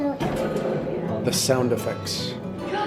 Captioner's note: machine whirring